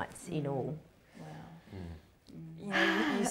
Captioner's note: sighs heavily